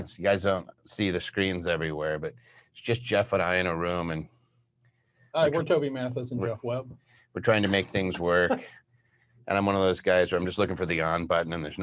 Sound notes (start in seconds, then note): 7.6 chuckles